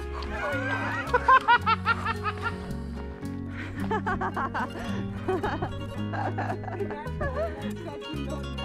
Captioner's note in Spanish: la risa